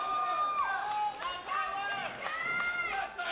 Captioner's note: crowd chatter